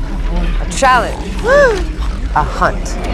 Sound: snorting

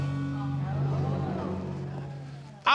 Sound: audience gasping

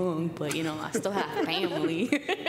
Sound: laughter

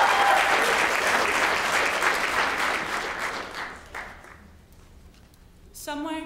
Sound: applause

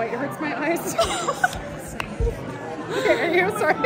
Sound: laughter

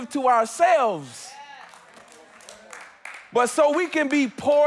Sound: congregants affirming

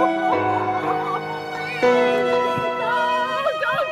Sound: sobbing

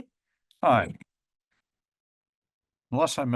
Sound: pause

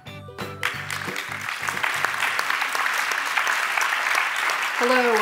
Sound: applause

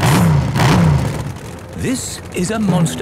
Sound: engines revving

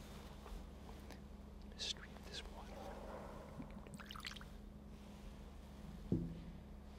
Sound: whispering

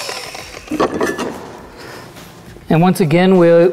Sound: tools clattering

